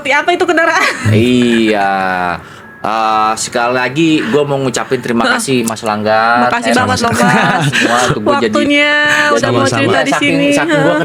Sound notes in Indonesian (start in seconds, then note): 6.8 tertawa